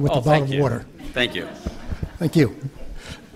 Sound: laughter

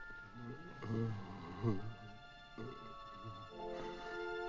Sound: man moans softly; tense music

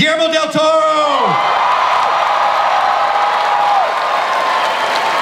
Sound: audience cheers

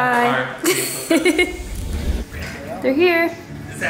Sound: laughs

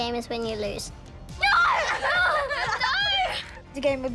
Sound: laughs

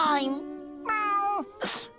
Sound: meowing

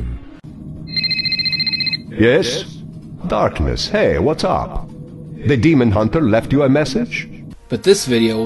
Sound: phone ringing

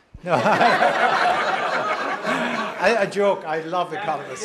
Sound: laugh

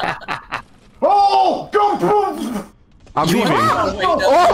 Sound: sounds of panic

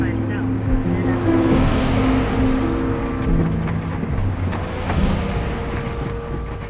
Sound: car engine humming; somber music

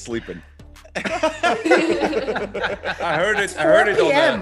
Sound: laugh

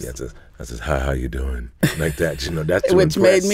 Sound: laughs

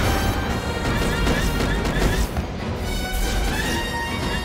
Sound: shooting

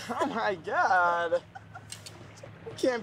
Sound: laughs

